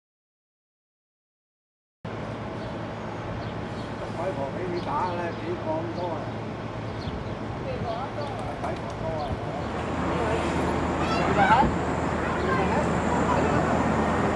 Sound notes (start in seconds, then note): 2.3 birds chirping